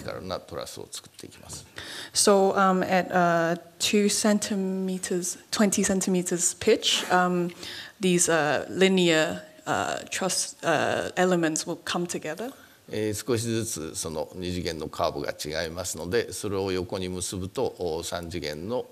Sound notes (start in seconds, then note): 12.7 speaking japanese